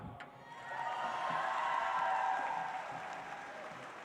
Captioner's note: audience applauds